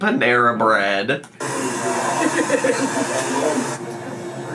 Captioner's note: laughing